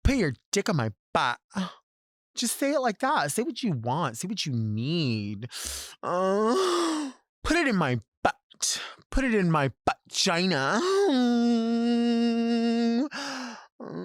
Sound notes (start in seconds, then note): 6.0 moaning; 10.8 moaning